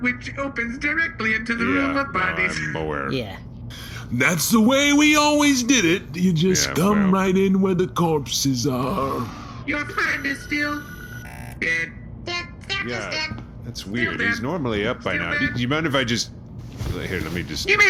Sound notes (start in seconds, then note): 9.1 scanning; 9.9 buzz